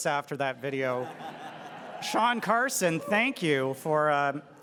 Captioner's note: audience laughs